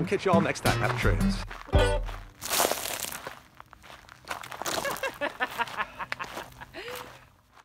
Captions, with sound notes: We'll catch you all next time. Happy trails. (laughing)